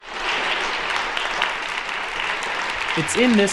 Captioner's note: applause